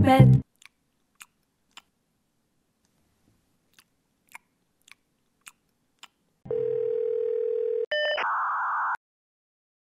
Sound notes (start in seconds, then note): 6.5 phone ringing; 7.9 modem sound effect